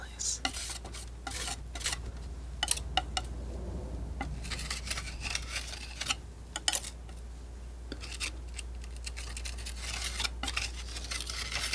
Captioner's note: scratching